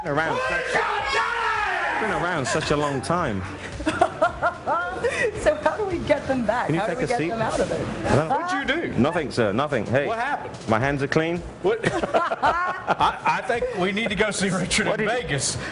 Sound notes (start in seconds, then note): 3.3 yelling; 5.3 laughter; 6.4 yelling